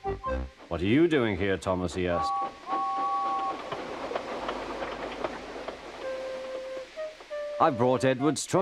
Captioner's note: James clatters